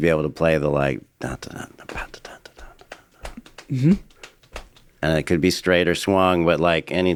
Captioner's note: humming